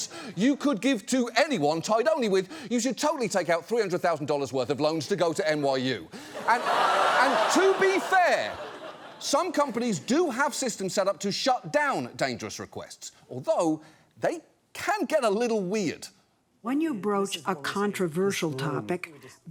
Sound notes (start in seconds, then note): 6.3 audience exclaims, laughs